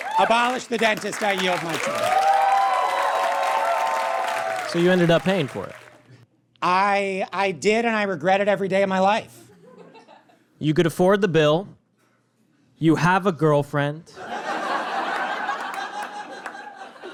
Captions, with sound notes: Abolish the dentist. I yield my time. (audience cheers and applauds) So you ended up paying for it? I... I did, and I regret it every day of my life. You could afford the bill. You have a girlfriend. (audience laughs uproariously)